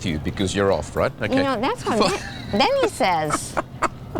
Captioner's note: laughing